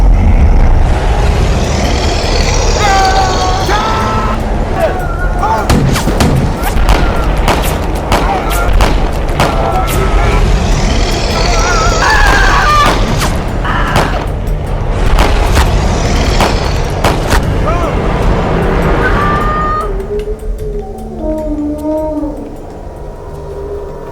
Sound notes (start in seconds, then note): 0.8 bear growls; 2.7 Tom screaming; 5.7 guns firing; 10.7 bear growling; 11.2 Giuliana screams; 14.0 gun firing; 18.9 Giuliana screams; 21.2 bear groaning